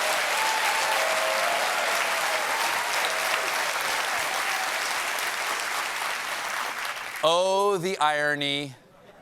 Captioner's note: cheers and applause; applause